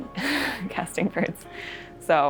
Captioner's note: laughs